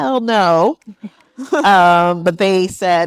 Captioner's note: attendees laughing